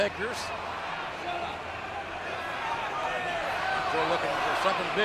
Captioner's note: audience cheering